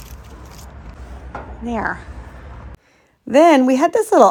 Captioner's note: leaves rustling; vase tapping